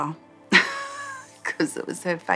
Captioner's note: laughs